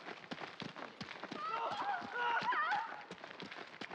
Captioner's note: screams